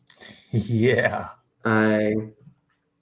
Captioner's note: laughs